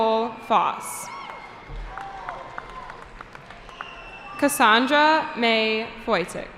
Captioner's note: cheering